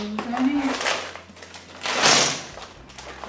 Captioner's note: frozen prawns clatter in